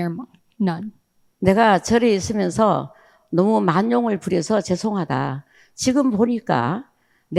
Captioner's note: speaking in foreign language